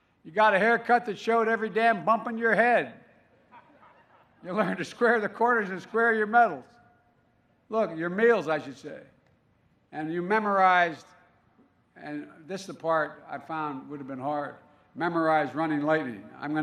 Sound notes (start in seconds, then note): 3.4 laughter